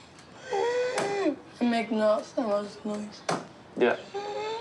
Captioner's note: wheezes